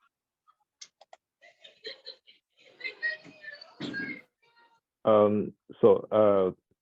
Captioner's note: children laughing in background